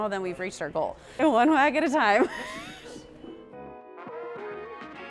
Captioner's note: laughs